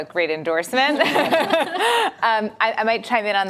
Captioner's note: laughter